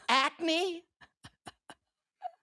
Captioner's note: laughing